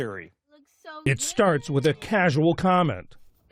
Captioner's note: voice-over